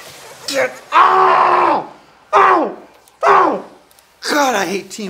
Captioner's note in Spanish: grita